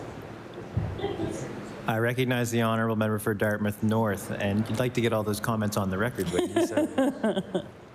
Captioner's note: laughter